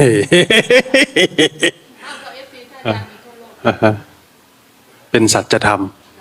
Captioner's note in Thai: เสียงหัวเราะ